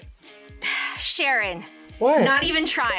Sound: sighs

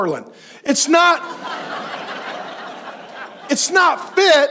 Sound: congregation laughs

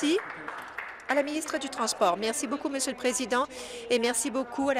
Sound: applause

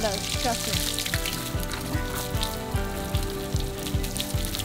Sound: water spraying

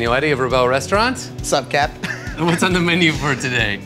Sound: laughs

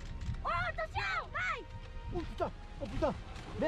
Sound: shouting in foreign language; speaking in foreign language

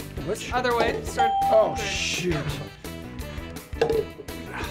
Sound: bell rings

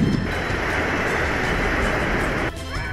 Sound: ocean waves; yelling

